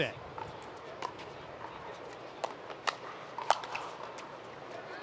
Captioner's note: pickleball thudding